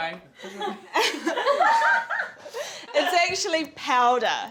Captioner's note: all laugh